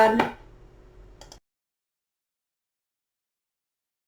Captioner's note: mouse click